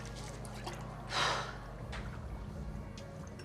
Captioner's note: sighs